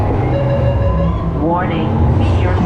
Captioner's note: beeps